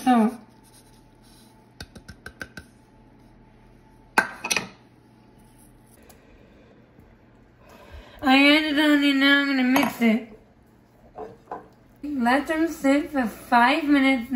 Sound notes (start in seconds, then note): 2.2 tapping; 7.6 breathing